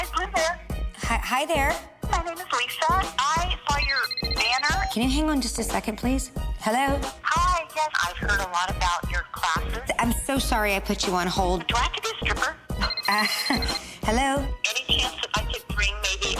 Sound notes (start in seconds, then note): 3.7 phone rings; 12.8 phone rings